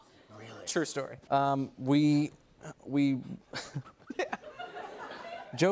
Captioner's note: laughs